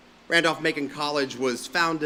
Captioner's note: none